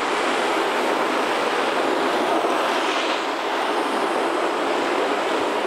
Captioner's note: skates scraping